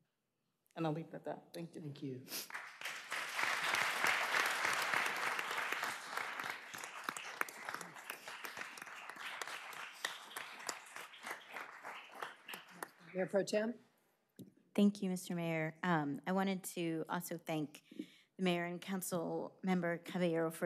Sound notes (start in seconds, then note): 8.6 applause